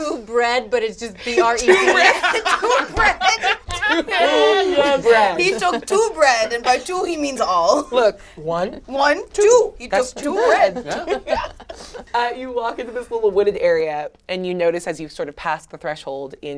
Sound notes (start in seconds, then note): 1.3 all laugh